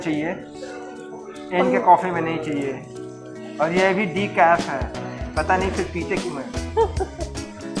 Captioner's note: laugh